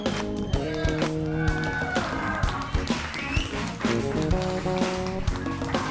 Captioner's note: audience cheering and applauding; lively music